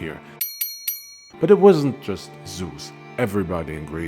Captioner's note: ding